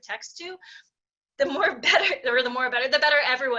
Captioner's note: chuckling